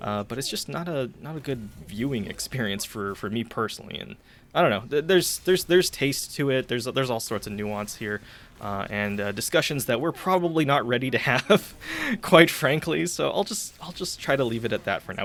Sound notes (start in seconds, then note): 5.4 stammers; 11.2 laughing slightly